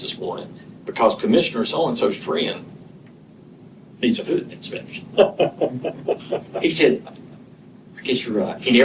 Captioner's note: laughter